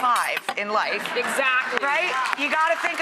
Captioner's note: audience laughter